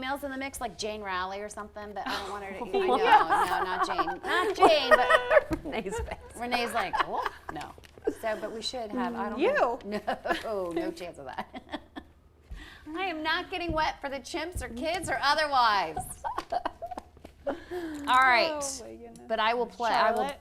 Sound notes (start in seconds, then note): 2.7 laughing